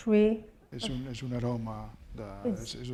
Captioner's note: speaking spanish